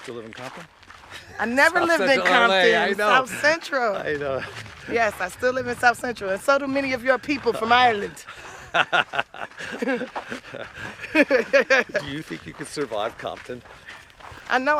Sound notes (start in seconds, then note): 8.2 laughter